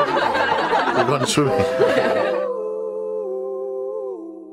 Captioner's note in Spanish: risas